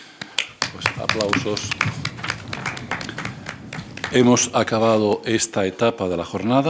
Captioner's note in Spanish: Aplausos